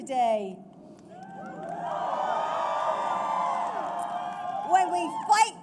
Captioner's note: applause